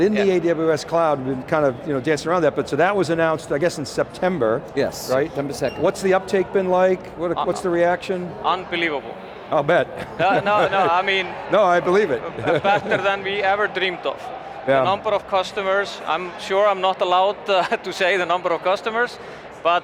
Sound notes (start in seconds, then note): 9.9 laughing